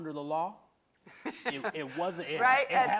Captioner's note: laughter